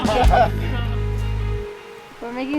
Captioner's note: laughing